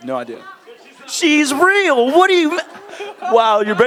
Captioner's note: audience Murmurs